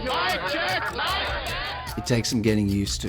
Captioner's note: voiceover